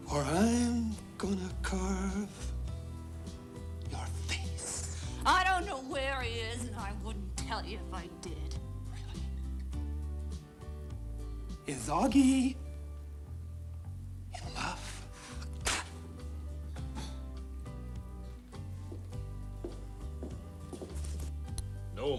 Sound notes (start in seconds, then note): 15.4 spit splatting; 18.6 footsteps tapping